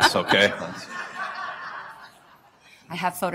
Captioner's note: laughter